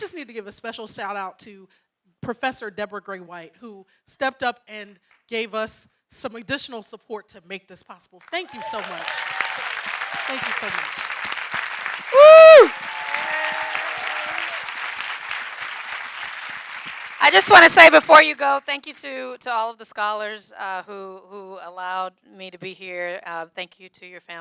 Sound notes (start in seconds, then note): 10.5 audience cheering and clapping; 15.7 cheers